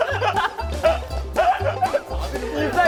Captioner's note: laughing like crazy